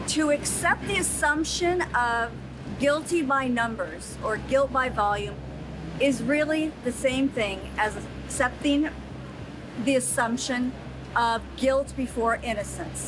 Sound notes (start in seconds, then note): none